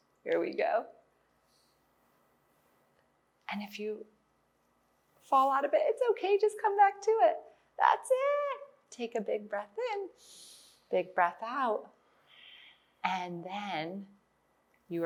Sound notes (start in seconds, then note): 10.1 inhales; 12.1 exhales